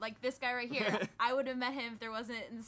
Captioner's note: laughing